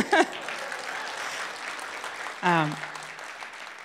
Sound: laughs; crowd laughs, applauds

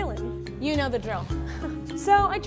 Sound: laughs

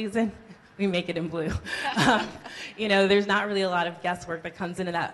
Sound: laughs

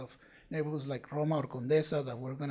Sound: speaking Spanish

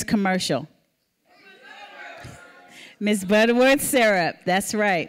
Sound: audience shouting

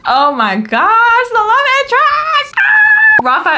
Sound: screams

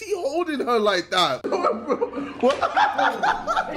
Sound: laughs

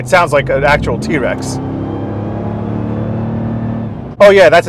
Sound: vehicle engine roaring

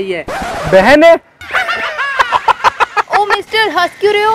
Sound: laughter

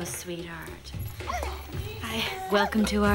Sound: dog growls

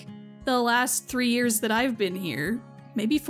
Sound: none

